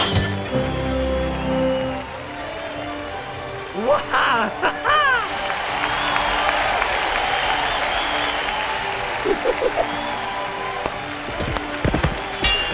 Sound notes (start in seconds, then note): 6.8 multitud animanda